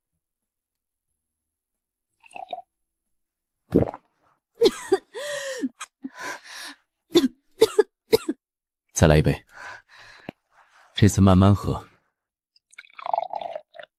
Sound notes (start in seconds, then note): 7.1 cough cough cough